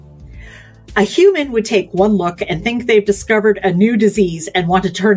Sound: none

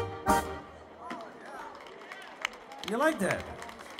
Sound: audience applauding

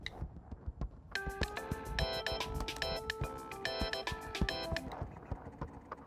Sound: phone rings

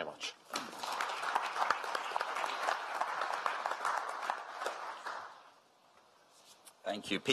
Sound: applause

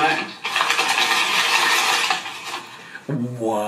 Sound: paper rustling loudly

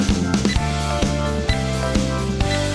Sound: 🔥 Oven Sound 🔥

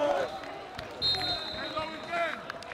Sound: whistle

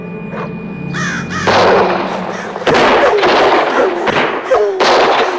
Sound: gunfire blasting; birds squawking

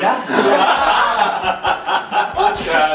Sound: laughs

